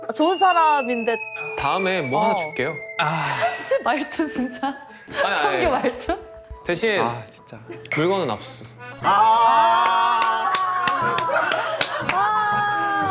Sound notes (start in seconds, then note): 2.9 frustrated sigh; 12.0 lamenting noises